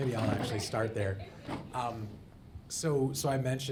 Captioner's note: audience laughing